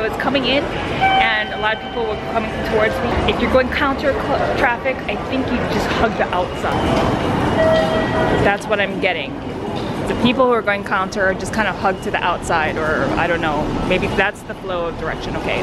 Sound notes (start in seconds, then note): 10.5 traffic